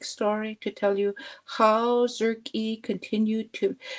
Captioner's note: speaking Indigenous language